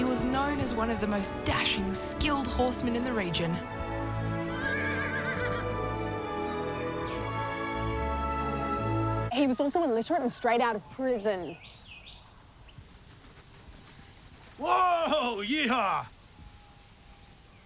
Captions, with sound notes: He was known as one of the most dashing, skilled horsemen in the region. (horse whinny) He was also illiterate and straight out of prison. Whoa!! Yeehaw!